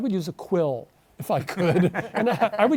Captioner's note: all chuckle